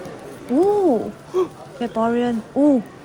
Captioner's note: excited gasp